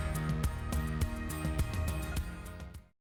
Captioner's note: applause